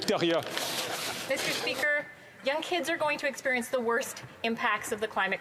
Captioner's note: speaking French